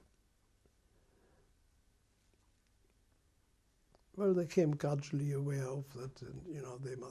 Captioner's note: pauses for 3 seconds